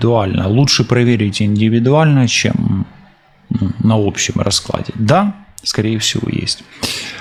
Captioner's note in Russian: откашливается